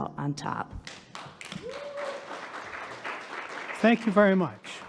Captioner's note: audience applauding